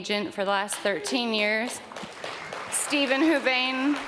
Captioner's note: audience clapping